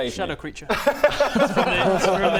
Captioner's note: fair-enough laughter